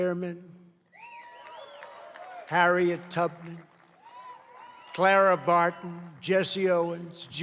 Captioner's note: applause